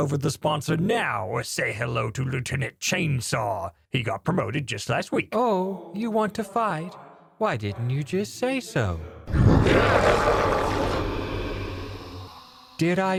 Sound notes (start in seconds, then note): 9.3 tentacle noises ensue